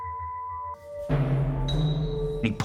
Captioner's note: banging